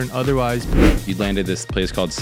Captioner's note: air whoosh